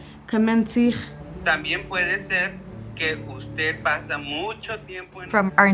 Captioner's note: caller speaking Spanish